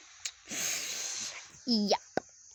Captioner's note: noise from mouth